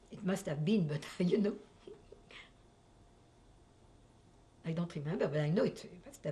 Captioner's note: laughs